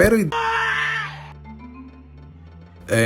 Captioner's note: aaah!!!